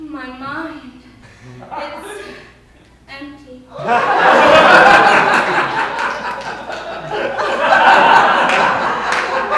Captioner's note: laughter